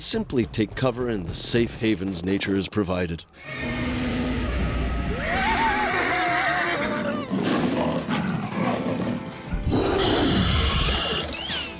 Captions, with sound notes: AND SIMPLY TAKE COVER IN THE SAFE HAVENS NATURE HAS PROVIDED. (creature roaring) (screaming) (growling) (creature roars)